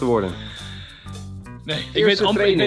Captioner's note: deep breathing